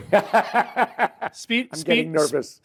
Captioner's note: laughs